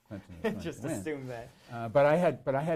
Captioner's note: laughs